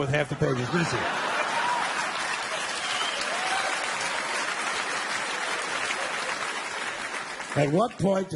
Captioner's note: audience applauding and laughing